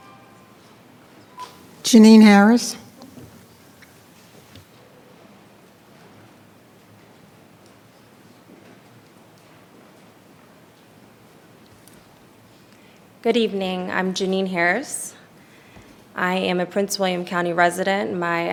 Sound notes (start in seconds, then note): 0.8 speaking faintly